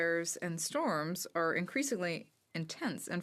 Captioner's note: speaking French